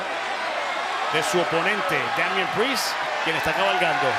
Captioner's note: crowd cheering